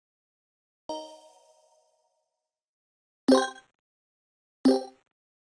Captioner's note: video game beeping